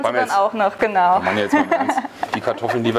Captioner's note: laughs